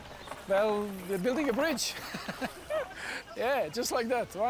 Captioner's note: laughs